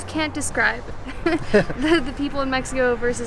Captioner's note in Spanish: risas